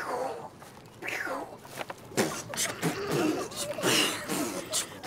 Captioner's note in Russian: смешные звуки